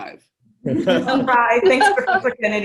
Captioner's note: laughter